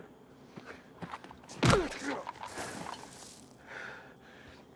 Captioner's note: thud